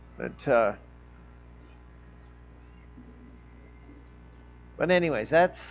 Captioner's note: sirens wailing